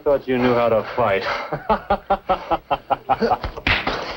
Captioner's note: laughter; chuckling; all laughing